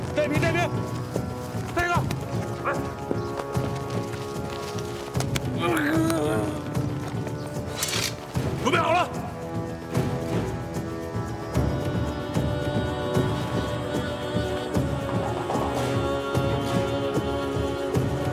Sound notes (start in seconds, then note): 5.7 Lao Ai moaning; 8.4 soldier speaks in foreign language